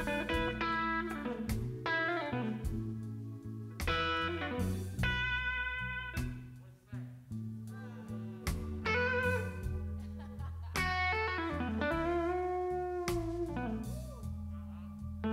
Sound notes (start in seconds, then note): 10.0 laughs; 11.2 soft orchestral music